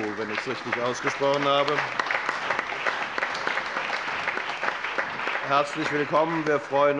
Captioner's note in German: Beifall